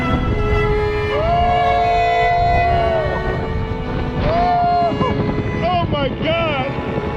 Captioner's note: yelling